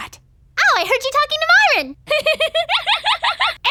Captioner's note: giggles